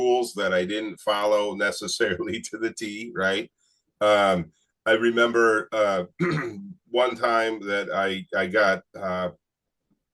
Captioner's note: clears throat